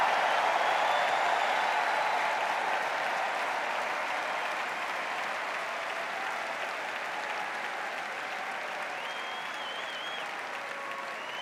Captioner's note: cheers and applause